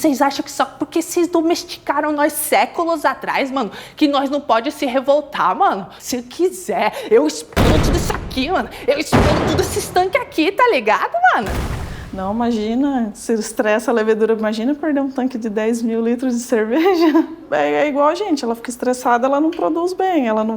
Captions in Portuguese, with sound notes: E vocês acham que só porque vocês domesticaram nós séculos atrás, mano, que nós não "pode" nos revoltar, mano? Se eu quiser, -explodo tudo isso aqui, mano. -[explosão] Explodo todos esses tanques aqui, tá ligado, mano? Não, imagina. Se estressa a levedura, imagina perder um tanque de 10 mil litros de cerveja. É igual a gente. Ela fica estressada, ela não produz bem,